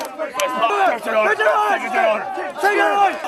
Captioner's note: speaking muffled by shouting